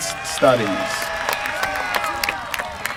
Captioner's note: applause